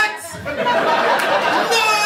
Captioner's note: laughter